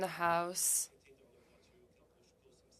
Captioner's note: speaking French